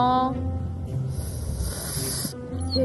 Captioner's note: rattlesnake sound, round two